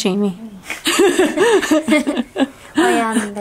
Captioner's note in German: lachen